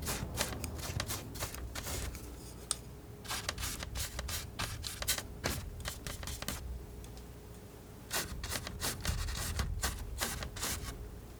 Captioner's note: scratching